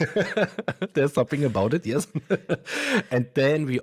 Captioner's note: laughs